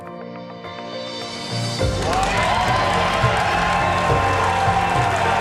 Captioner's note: Gritos e aplausos